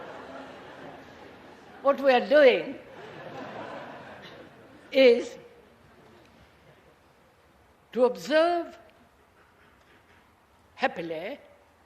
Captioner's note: laughter